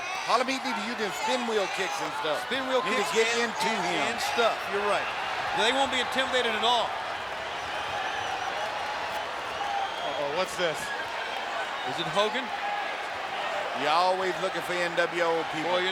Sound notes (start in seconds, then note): 7.6 crowd cheering